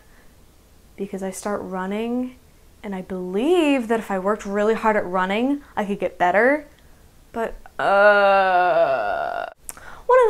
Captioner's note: groans